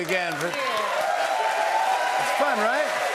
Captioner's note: cheers and applause